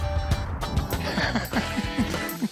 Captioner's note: laughs